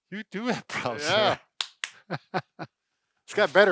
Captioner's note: laughing; slapping